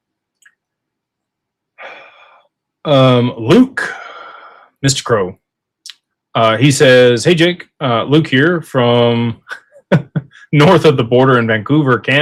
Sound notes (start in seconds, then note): 1.8 sighs; 9.5 laughter